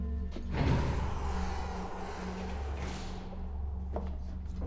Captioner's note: elevator door whirring